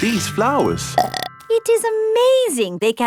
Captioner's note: burps